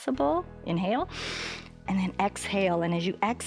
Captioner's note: inhales